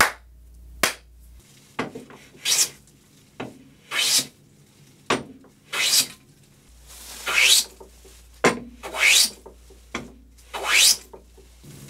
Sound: hand plane noises

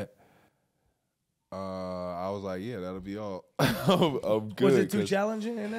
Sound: chuckles

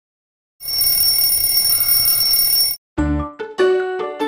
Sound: alarm ringing

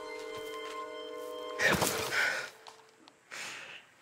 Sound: gasp

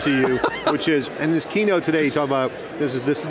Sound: laughs

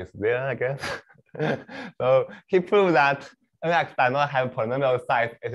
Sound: laughs

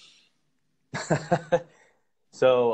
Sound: laughter

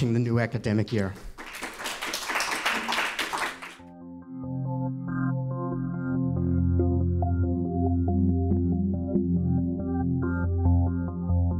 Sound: applause

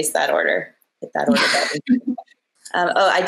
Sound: laughs

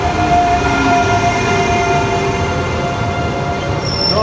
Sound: train noise

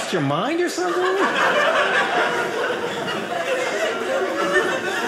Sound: audience laughing

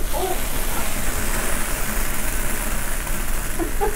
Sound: water sizzling; laughs

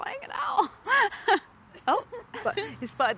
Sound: laughs

